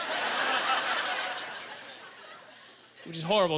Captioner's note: audience laughter